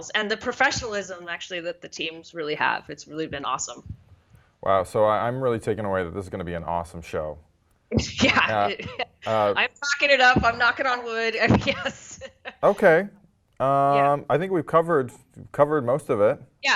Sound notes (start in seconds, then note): 11.2 laugh